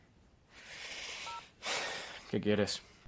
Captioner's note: sighs